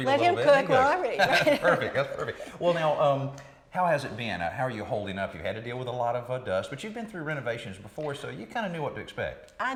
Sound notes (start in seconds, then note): 0.9 laughing